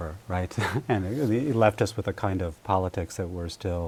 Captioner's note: laughter